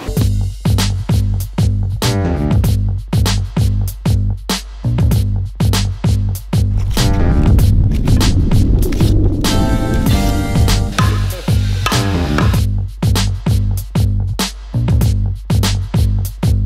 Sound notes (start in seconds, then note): 0.0 upbeat funky music; 10.9 hammer clanking